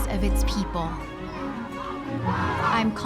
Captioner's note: chanting